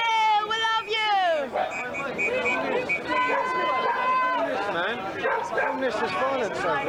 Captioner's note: crowd